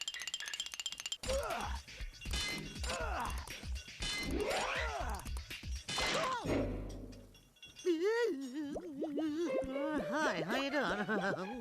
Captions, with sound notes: [grunting] [screaming] [muffled groaning] HI, HOW YOU DOING?